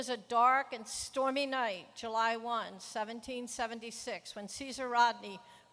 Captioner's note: none